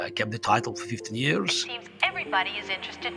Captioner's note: soundbite of archived recording